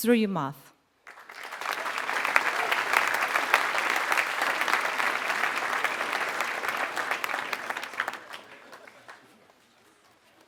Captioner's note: applause